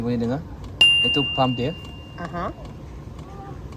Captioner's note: bell sound